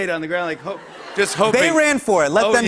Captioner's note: laughter